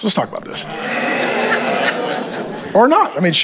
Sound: congregation laughs

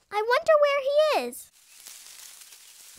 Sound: rustle of movement

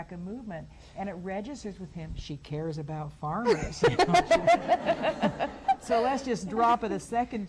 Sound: laughs

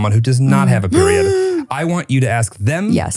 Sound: gasps

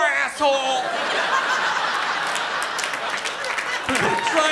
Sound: laughter

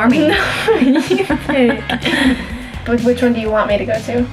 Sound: both laugh

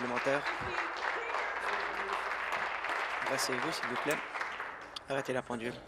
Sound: applause

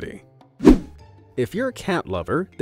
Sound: image whooshing

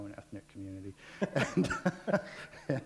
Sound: laughter

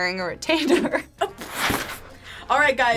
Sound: laughs

